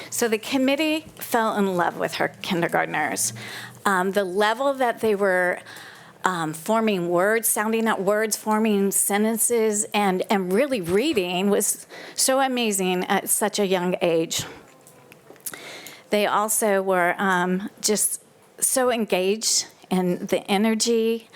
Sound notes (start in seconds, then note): none